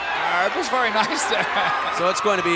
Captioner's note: chuckling